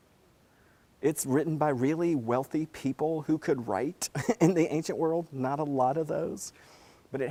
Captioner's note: laugh